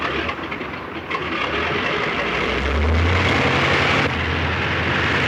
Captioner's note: airplane motor revving